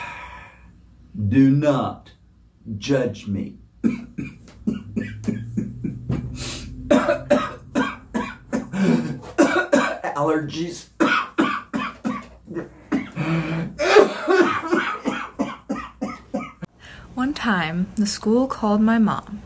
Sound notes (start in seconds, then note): 3.8 coughs